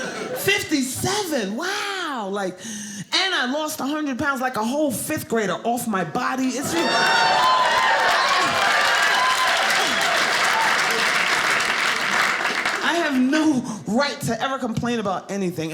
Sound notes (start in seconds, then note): 6.5 audience cheering